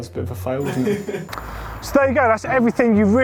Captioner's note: laughing